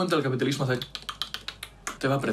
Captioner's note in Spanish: chasca la lengua